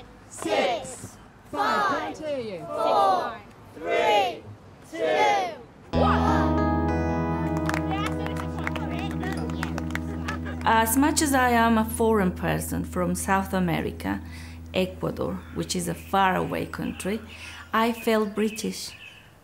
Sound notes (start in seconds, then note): 7.4 applause